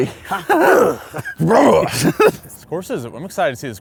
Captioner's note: laughs